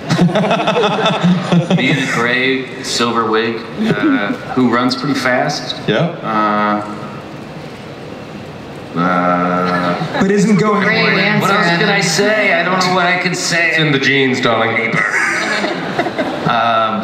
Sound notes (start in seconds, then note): 0.0 Chris laughs; 10.7 voiceover; 14.9 audience laughs